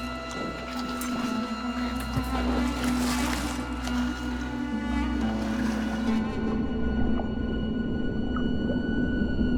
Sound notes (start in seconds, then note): 2.5 water splashes; 6.5 water gurgling